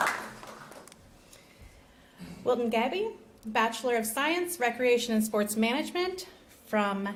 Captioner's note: applause